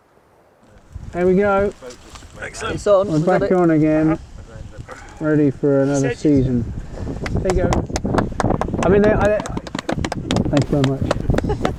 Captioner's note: clapping